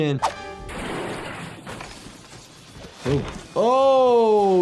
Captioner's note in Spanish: vidrio crujiendo